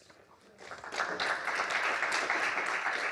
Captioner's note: applause